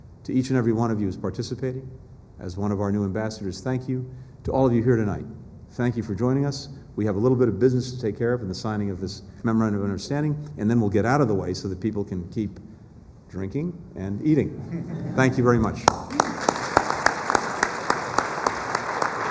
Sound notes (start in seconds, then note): 14.6 laughter; 15.8 applause